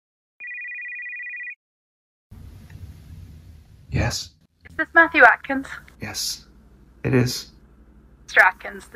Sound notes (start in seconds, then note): 0.4 phone rings